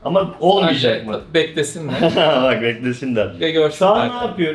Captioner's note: laughs